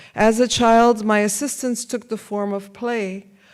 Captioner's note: none